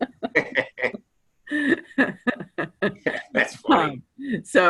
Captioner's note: laughter